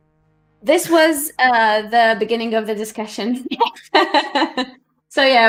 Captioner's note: laughs